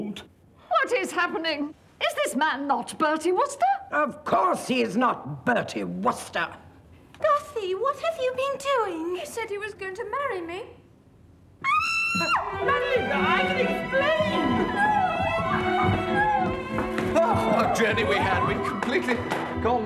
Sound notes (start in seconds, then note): 11.6 screaming